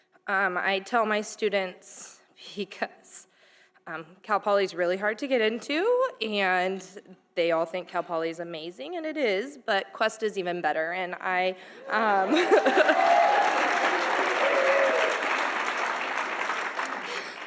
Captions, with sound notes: I tell my students because Cal Poly is really hard to get into, and they all think Cal Poly is amazing and it is but Cuesta College is even better and I... (audience applauding)